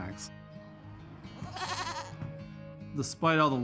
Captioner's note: goat bleating